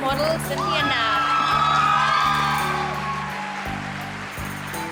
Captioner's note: crowd cheers